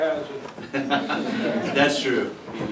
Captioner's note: laughter